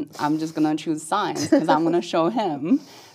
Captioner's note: laugh